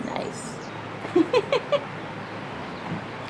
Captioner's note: chuckling